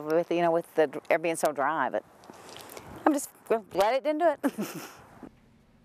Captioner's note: laughs